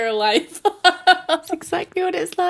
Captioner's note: laughs